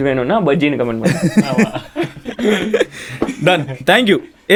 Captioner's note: group laughs